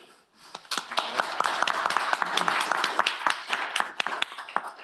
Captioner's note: applause